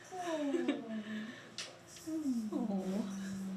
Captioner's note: cooing